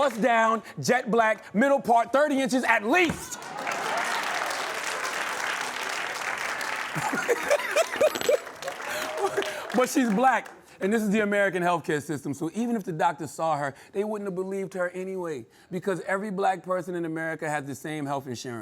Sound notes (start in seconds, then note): 3.2 applause; 6.9 laughing